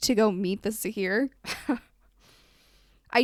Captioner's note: laughs